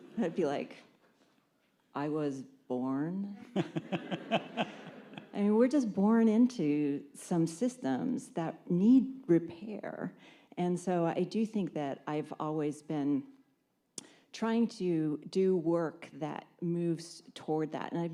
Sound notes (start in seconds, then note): 3.4 laughter